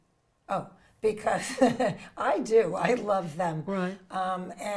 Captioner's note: chuckles